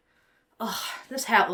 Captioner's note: sighs